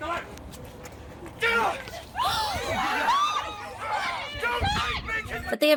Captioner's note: park guests gasping in horror